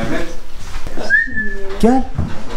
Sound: whistles

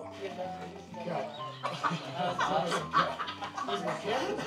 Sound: laughing

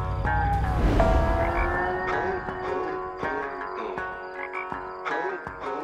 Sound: humming to the beat

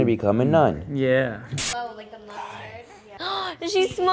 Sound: disk scratching; gasping

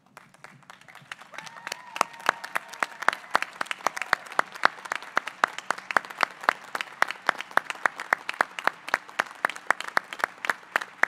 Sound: applause

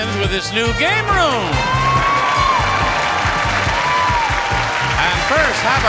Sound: audience cheering

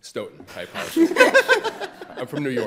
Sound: all laughing

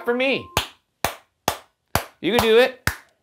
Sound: hands clapping

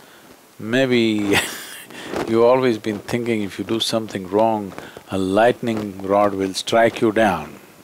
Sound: laughs

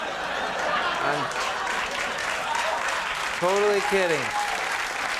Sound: applause

